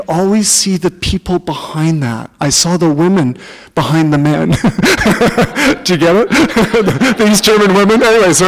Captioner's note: laughter